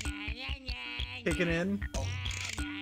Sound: none

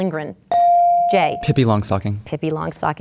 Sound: bell dinging

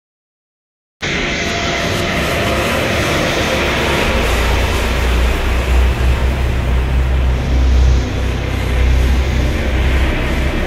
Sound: sound of dark desert

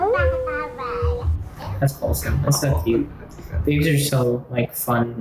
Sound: child babbles

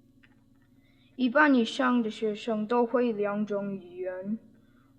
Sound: spoken in Mandarin Chinese

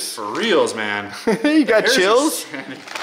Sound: laughs

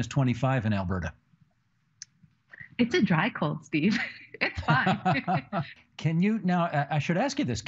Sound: laughing

